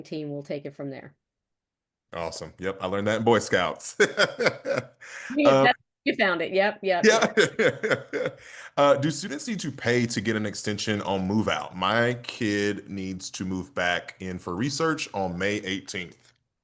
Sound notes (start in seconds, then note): 3.9 laughs; 7.0 laughs